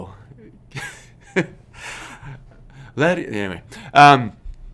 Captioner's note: laughs